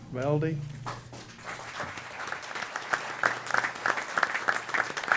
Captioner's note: applause